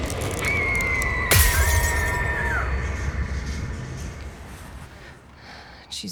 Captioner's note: Flora screaming; glass shatters